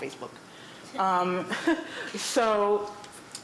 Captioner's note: laughter